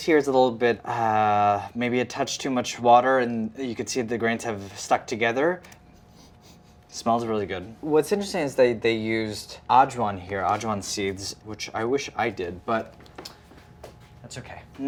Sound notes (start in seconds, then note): 6.1 sniffs